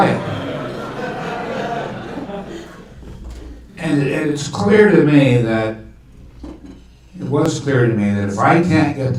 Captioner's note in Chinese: 听众笑